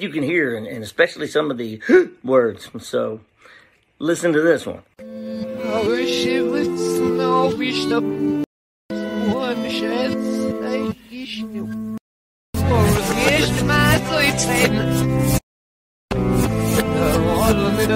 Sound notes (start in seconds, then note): 3.4 gasp